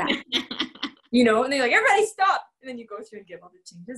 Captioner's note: laughter